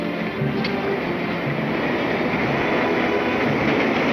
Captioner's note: clacking